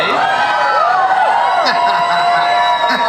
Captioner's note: audience cheers; Tom laughs and cheers